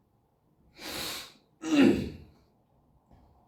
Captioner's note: sniff; clears throat